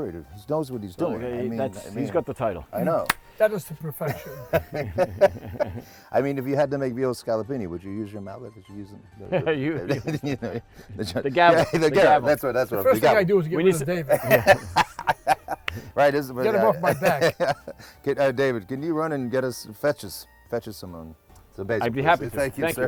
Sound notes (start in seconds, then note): 4.0 laughs; 14.0 laughter; 16.3 laughs